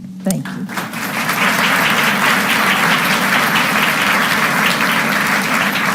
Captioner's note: audience applauding